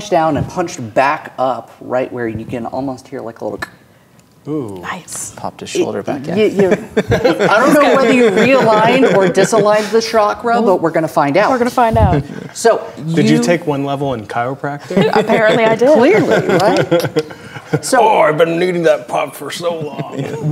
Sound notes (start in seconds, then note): 3.6 clicks; 6.4 players laughing; 14.9 players laughing